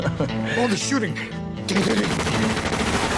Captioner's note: gunfire